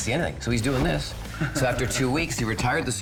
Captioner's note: both laughing